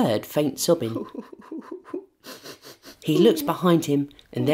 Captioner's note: quiet sobbing